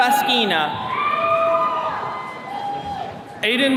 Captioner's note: attendees cheering